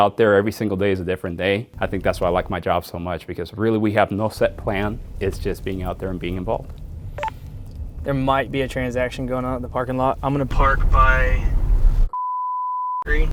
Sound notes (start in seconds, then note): 7.1 radio beeps; 12.1 beep